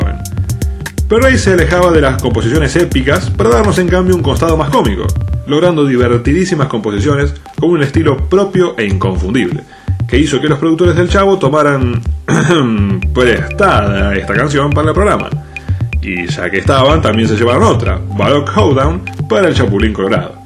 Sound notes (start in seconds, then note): 12.3 ahem